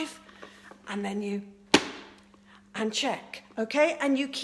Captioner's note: smacks